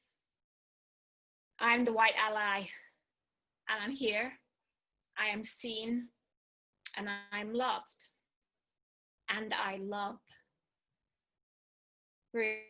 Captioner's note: breathes